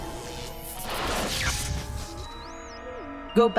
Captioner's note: static noise